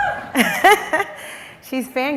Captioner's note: laughs